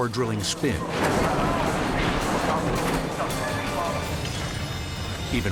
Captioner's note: car crashes